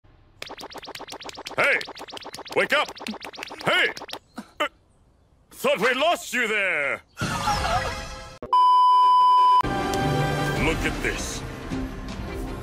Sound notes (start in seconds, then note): 0.4 goofy slapping sound; 7.2 dramatic sound effect; 8.5 beep